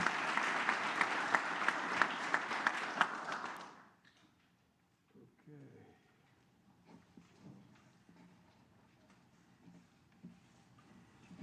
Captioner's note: applause